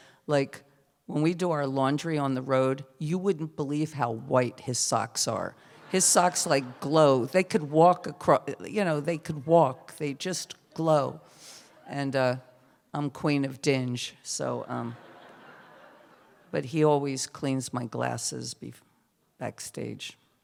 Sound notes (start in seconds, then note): 5.7 laughter; 14.8 laughter